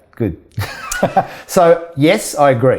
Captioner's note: laughing